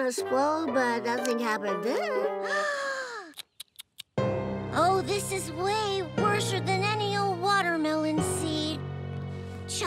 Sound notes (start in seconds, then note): 2.4 gasping